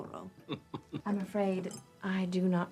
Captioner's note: Ewald laughs